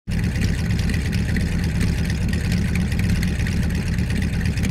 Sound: engine loudly rumbling

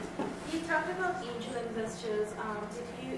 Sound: voiceover

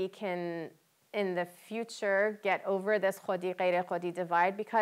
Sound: non-english speech

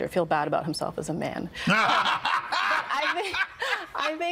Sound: laughing

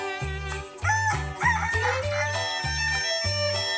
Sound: crowing

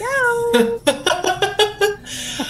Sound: laughs

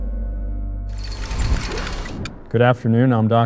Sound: mechanical door closing

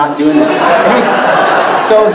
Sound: audience laughing

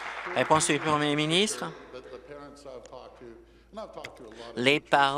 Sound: applause

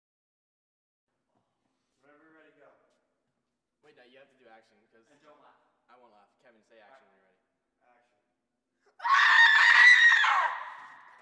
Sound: girl scream

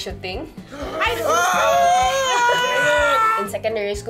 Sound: screams again

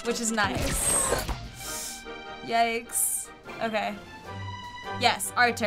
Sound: inhales sharply

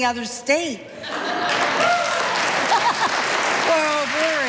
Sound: audience applauding

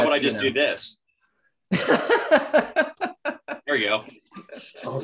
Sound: laughing

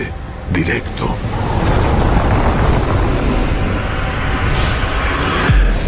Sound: sand whooshes

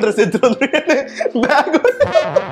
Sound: laughs

